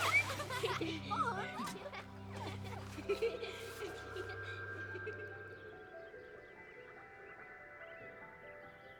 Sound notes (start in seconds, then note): 2.0 laughter fades